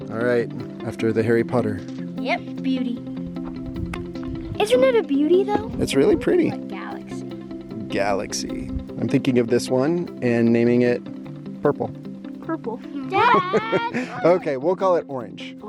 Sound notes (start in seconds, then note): 13.0 laughs